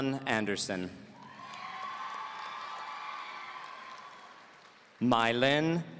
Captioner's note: audience cheering